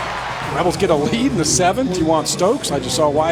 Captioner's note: voiceover